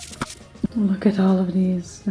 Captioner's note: sounds of core sliding out of sheath